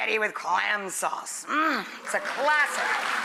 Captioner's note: audience applauds